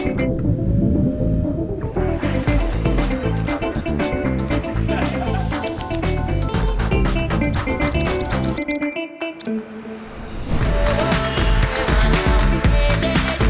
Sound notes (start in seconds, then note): 0.2 vacuuming underwater; 1.5 water splashes; 7.9 clicking; 10.5 uplifting music